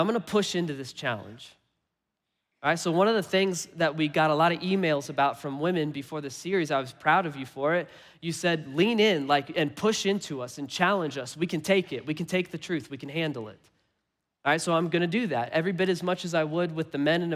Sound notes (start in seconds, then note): none